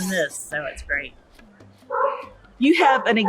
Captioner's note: sea lions barking